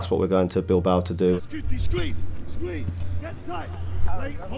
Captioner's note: indistinct chatter